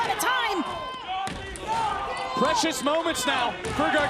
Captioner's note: crowd chatter